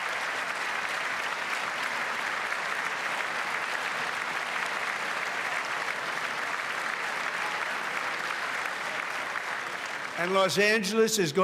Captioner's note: applause